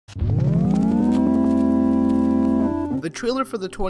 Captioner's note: static noise